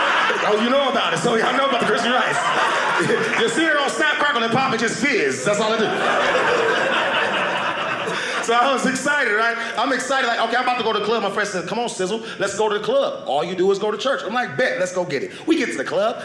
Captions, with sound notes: Oh, you know about it? Some of y'all know about the Crispy Rice. The cereal don't snap, crackle, and pop. It just fizz. That's all it do. (audience laughing) So I was excited, right? I'm excited. Like, OK, I'm about to go to the club. My friend said, "come on, Cizzle. "Let's go to the club. "All you do is go to church." I'm like, bet, let's go get it. We get to the club.